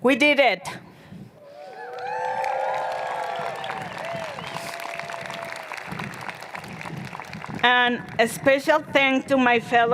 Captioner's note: cheers and Applause